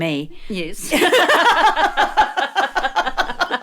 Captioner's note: laughs